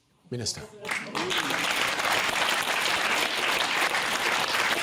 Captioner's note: applause